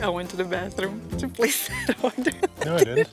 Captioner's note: laughs